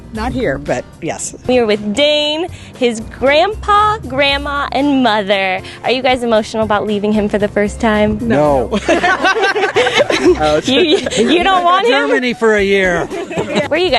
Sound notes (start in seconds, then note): 8.7 laughter